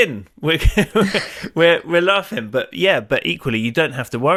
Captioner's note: laughs